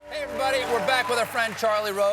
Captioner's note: applause